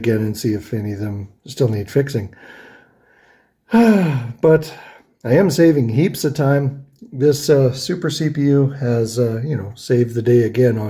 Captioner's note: sighs